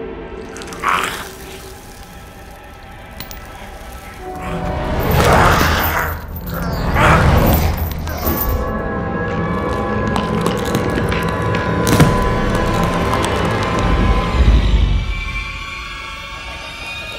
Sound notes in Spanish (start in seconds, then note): 2.6 música intensa; 9.6 huesos rompiéndose; 14.4 música intensa